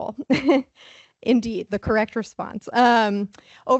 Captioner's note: laughs